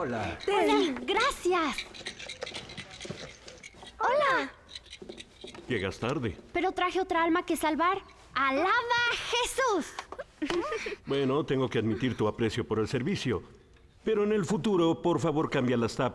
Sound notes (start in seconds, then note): 10.1 laughter